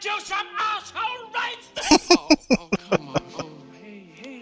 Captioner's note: laughing